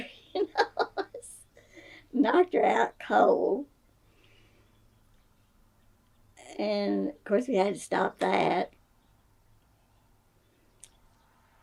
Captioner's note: laughs